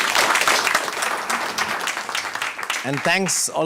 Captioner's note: audience applauding